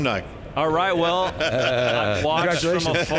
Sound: all laughing

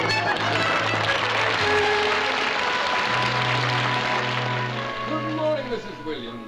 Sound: ominous music playing; applause

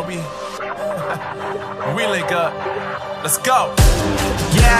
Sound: ha ha

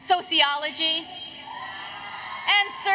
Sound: applause, Cheering

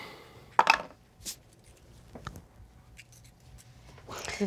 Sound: dice clatter

